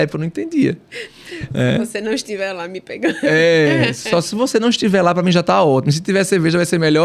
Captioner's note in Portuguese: risadas